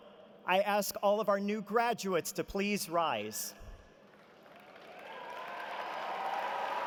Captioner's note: applause